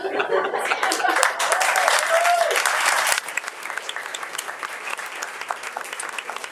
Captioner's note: audience applauding and cheering